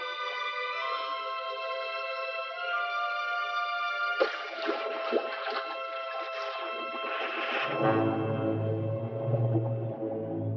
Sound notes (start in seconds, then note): 4.0 water splashing; 4.2 suspenseful orchestral music